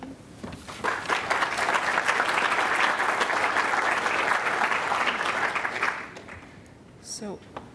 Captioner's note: applause